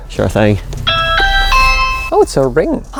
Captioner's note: doorbell ringing